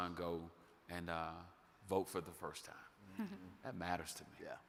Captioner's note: laughing